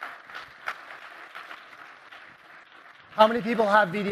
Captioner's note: applause